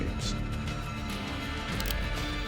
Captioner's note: gun cocking